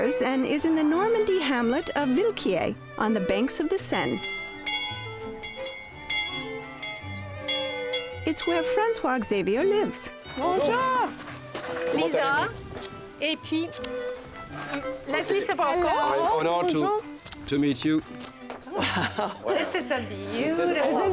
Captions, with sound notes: and is in the Normandy hamlet of Villequier on the banks of the Seine. [ Bell ringing ] It's where François-Xavier lives. -Bonjour! -Bonjour! -Lisa. [ Speaks French ] Leslie Sbrocco. -Hello. -An honor to meet you. -Wow. -This is a beautiful home.